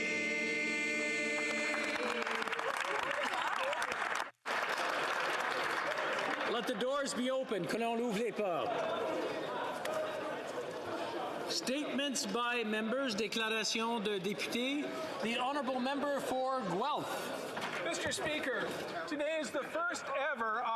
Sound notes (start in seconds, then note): 4.4 applause